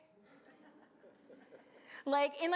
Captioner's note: audience laughs